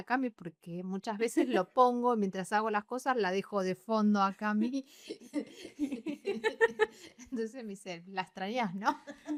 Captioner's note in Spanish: risas